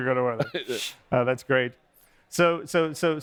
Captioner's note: laughter